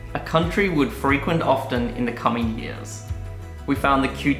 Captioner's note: none